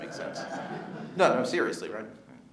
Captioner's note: audience laughing